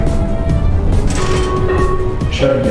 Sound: lever sound, buzzer and announcement chime

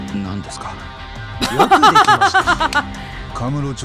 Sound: chuckles

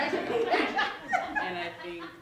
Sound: laughter

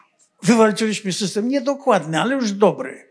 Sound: foreign language

